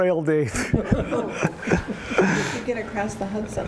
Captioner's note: laughter